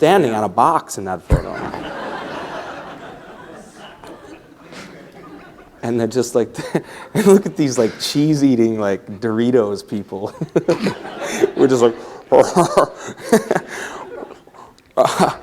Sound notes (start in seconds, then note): 7.5 laughter; 10.2 laughs; 15.2 laughter